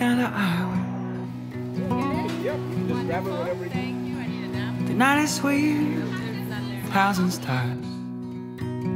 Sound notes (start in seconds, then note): 0.0 upbeat music in background; 2.2 people chatting in background